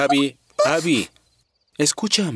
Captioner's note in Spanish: sollozando